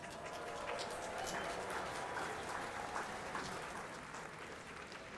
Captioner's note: audience applauding